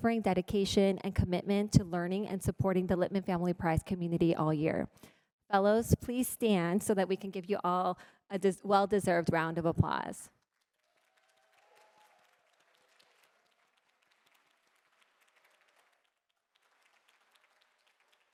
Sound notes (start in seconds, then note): 10.4 applause